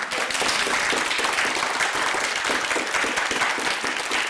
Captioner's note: applauding